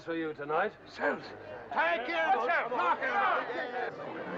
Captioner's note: crowd shouting